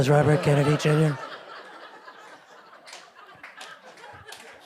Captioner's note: group laughing